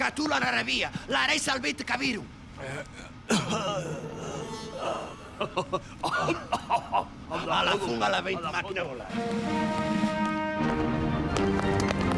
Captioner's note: pseudo-Arabic gibberish, background music, feigned cough, chuckles, noises